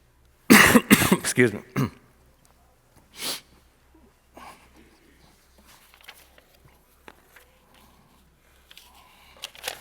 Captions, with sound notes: Excuse me. (clears throat) (clears throat) Excuse me. (clears throat)